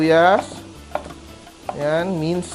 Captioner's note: sizzle